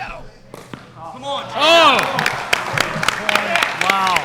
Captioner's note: applause